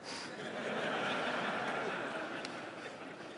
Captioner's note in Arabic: ضحك